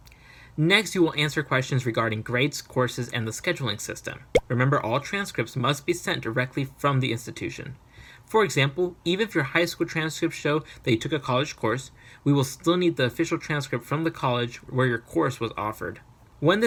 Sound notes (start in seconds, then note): 4.3 pop Sound